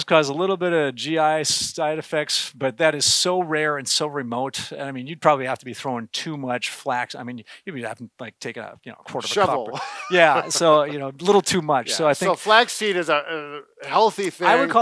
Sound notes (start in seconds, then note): 9.2 laughs